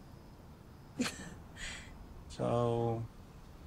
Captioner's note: laughs